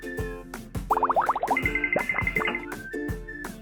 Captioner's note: lighthearted music; liquid bubbling; toy dinging; lighthearted music